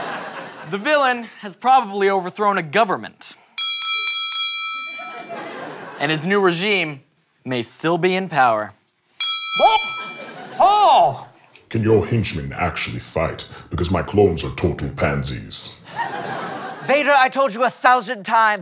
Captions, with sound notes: The villain has probably overthrown a government-- [four dings] And his new regime may still be in power. [ding] What? How? Can your henchmen actually fight? Because my clones are total pansies. Vader, I told you a thousand times,